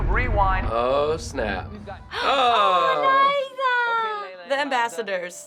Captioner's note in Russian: задыхается